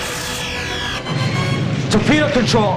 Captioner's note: explosion